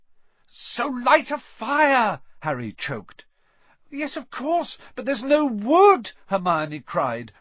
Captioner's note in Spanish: Harry gritó